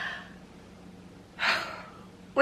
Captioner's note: heavy sigh